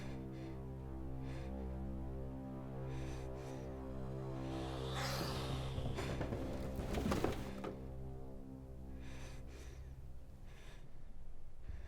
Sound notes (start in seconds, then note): 4.5 spider hissing and clattering